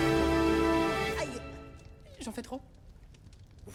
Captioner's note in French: Voix québécoise